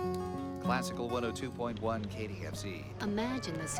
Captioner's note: voiceover